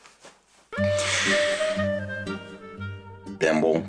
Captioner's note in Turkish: Nefes sesi